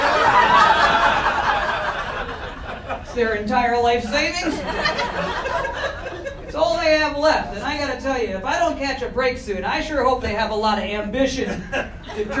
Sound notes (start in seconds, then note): 0.0 audience laughter; 4.2 audience laughing